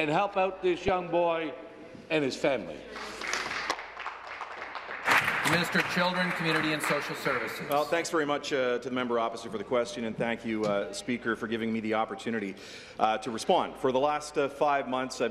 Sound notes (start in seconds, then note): 6.1 applause